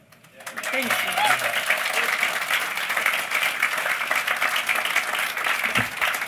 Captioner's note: applause